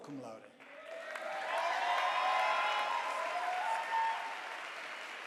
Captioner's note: audience applauding